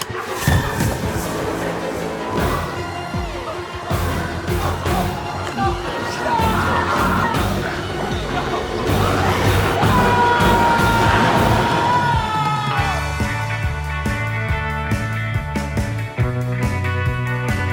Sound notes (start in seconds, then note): 0.1 intense music continues; 3.8 biker whimpering; 9.8 biker screams; 13.2 energetic guitar music